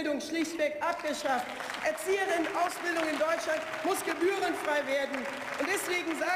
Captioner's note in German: Beifall